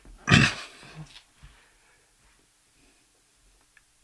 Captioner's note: clears throat